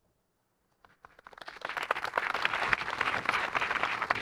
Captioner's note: audience applauding